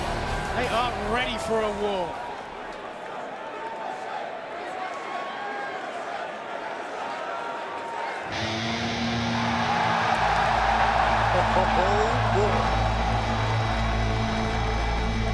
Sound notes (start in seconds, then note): 6.2 crowd chatter; 12.5 crowd cheering